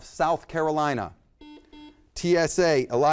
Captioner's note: buzzer beeps